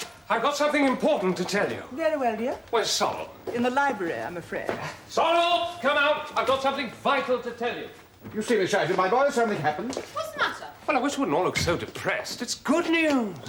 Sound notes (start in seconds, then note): 5.1 SIMON, shouting